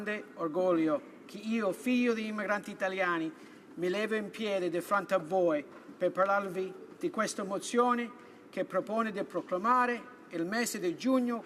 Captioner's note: speaking italian